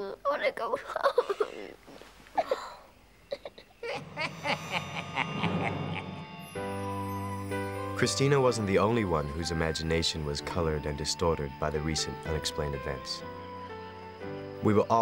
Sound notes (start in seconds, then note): 4.2 cackling